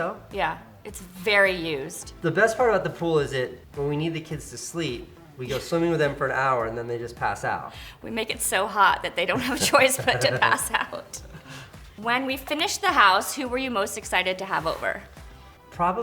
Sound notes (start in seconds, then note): 5.6 laughs; 10.9 both laugh